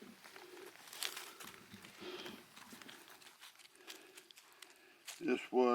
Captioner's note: breathing uneasily